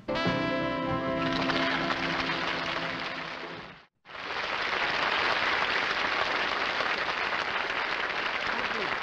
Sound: applause

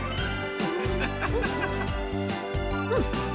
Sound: laughing

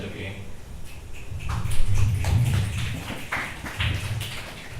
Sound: select audience members clap

